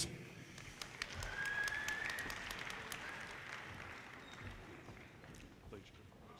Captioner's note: audience cheers and applause